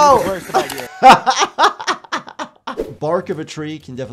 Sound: laughs

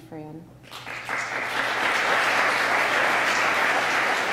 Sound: applause

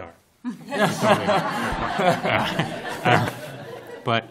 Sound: laughter

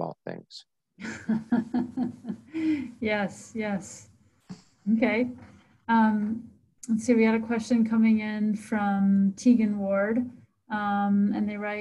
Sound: laughs

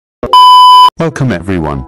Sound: disclaimer Beep

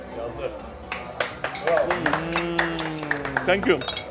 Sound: clapping

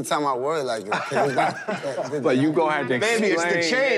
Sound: laughs

